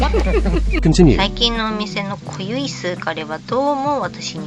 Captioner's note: laughs